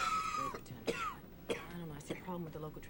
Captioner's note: Bill coughs